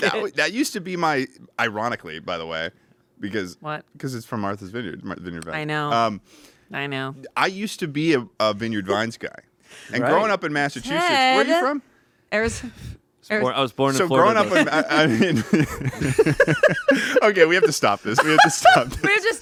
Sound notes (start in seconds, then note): 14.0 laughs; 15.7 everyone laughs